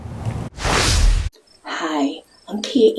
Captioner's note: graphics whooshing